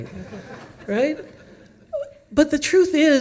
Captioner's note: audience laughs